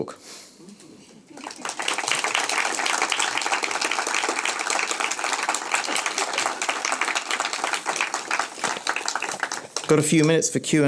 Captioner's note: clapping